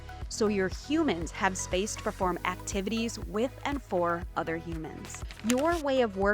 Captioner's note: keyboard clacking